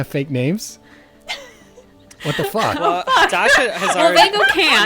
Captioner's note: laughing